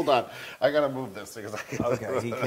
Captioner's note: laugh